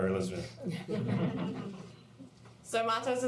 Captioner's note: laughter